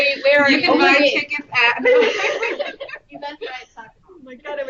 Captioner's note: laughter